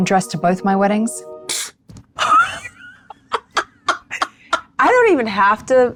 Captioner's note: laughs